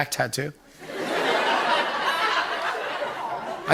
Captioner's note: laughter